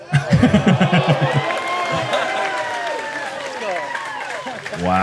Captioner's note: laughs; applause